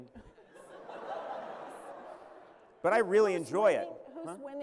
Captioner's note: laughter